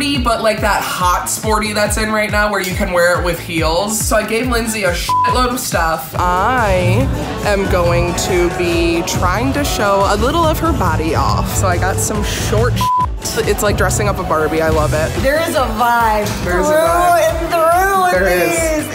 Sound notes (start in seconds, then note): 5.0 beep; 12.7 beeps